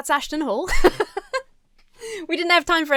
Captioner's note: laughs